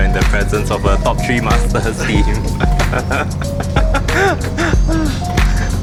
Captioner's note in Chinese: 大笑